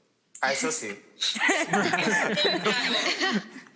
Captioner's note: laughter